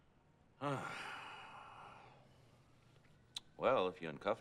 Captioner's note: sighs